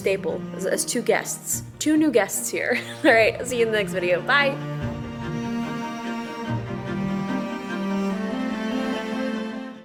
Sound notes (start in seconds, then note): 2.7 laughs; 4.9 calm music